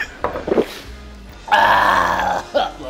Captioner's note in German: Knurrender Laut